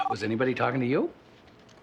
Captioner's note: phone ringing